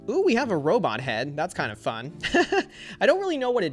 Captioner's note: laughs